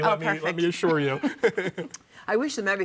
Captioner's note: laughing